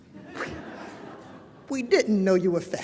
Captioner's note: laughter